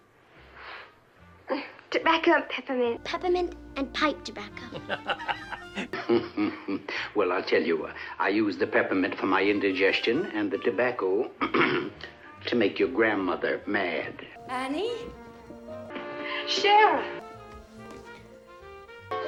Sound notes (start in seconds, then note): 1.9 sniff